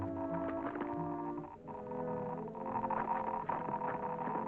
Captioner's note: machine ticking